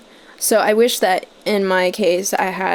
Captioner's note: none